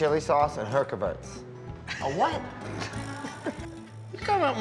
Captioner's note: laughs